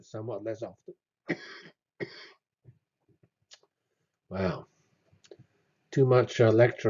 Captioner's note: cough